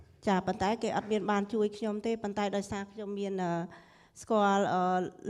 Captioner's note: speaking foreign language